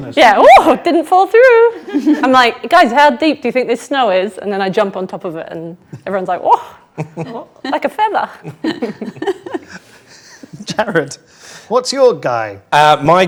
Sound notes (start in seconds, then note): 8.7 group laughs